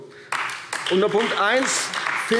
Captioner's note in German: Beifall AfD